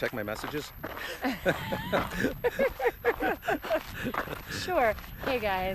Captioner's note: both laugh